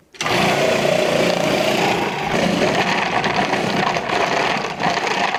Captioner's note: food processor whirring